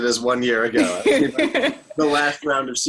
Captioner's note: laughter